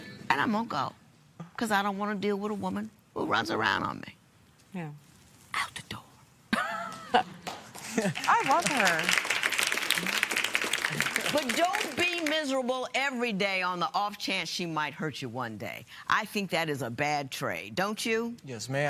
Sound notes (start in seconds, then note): 10.1 applause